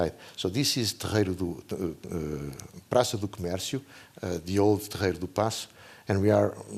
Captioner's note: non-english speech